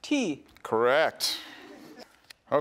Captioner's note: students giggle